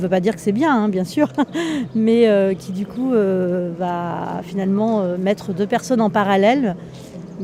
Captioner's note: laughing